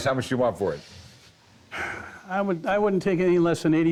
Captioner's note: sighs